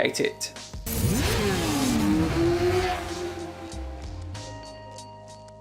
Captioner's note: motorbike engine roaring